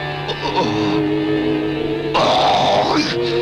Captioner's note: grunting